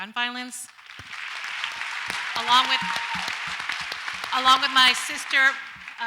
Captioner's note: audience applauds